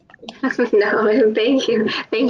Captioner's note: laughs